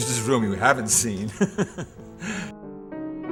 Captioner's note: laughing